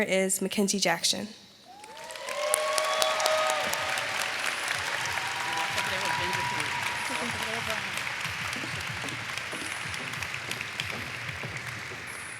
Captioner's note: applause